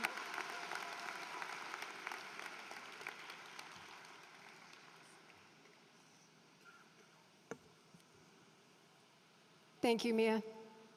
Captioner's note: applause